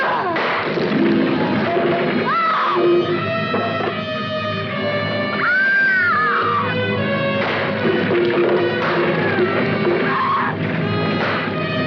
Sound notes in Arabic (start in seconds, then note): 1.6 يصرخ